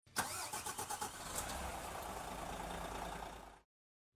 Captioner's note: engine cranking